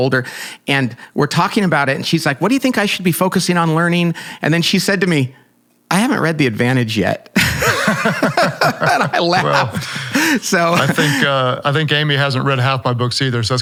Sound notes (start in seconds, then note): 7.4 laughing